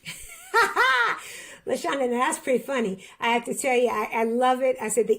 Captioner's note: laughs